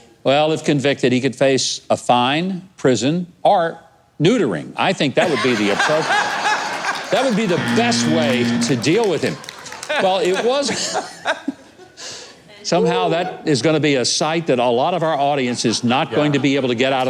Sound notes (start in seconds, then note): 7.3 laughter; 8.2 audience applauding; 9.1 honking; 9.2 chuckling